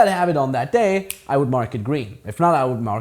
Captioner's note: fingers click